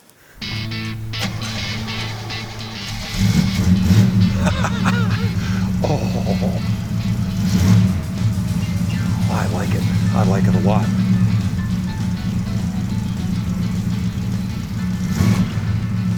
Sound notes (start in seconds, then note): 0.2 engine roars; 0.2 upbeat music; 4.5 engine roars; 4.5 laughing; 10.9 engine roars; 10.9 upbeat music